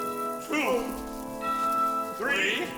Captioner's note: dinging